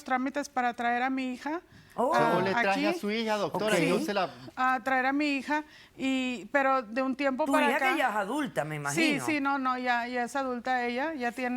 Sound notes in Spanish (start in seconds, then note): 2.7 Hablan al unísono